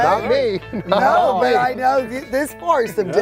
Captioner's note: laughing